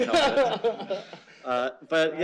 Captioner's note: laughter